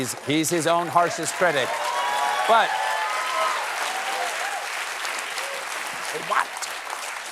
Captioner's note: applause